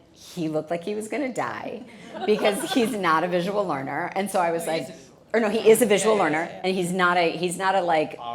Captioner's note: protests